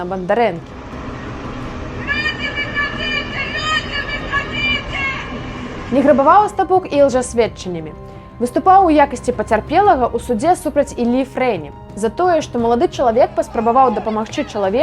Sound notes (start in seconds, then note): 0.7 yelling